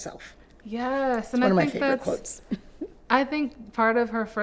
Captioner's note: chuckles